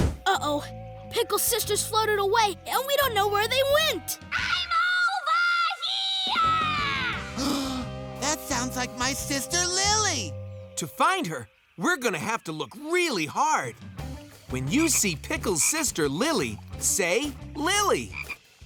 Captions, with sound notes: Uh oh, Pickle's sisters floated away and we don't know where they went! I'm over here! [gasps] That sounds like my sister Lily. To find her, we're going to have to look really hard. When you see Pickle's sister Lily say, Lily!